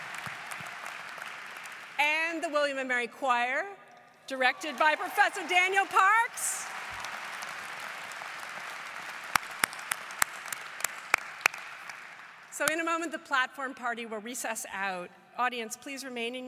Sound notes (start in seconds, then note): 4.4 applause